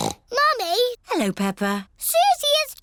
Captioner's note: snorts